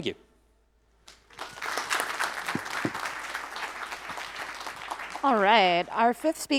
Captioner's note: applause